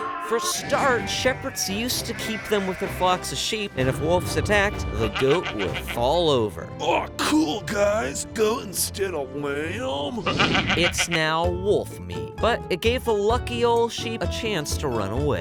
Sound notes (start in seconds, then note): 6.9 wolf voice